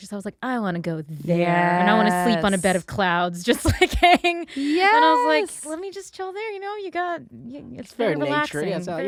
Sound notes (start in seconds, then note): 3.6 chuckles